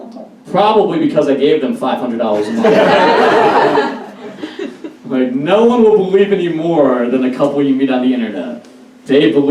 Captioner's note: audience Laughs - Would've got a bigger laugh if I said "paid them $500 a month